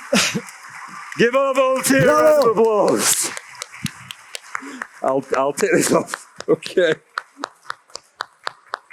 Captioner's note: applause/brawa